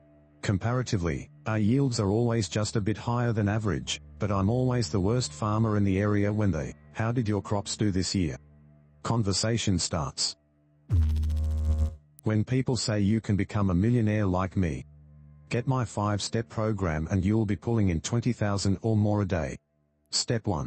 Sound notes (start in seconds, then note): 10.9 electrical noise